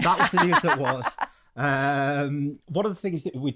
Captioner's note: laughing